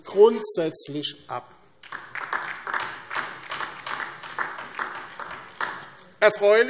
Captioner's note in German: Beifall DIE LINKE